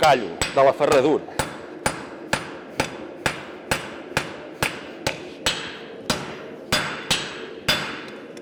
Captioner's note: sharp metallic hammering